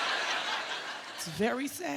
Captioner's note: laughter